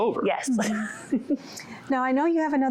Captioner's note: laughter